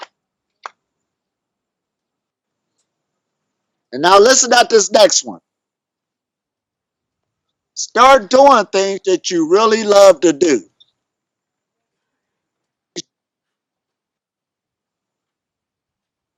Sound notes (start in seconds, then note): none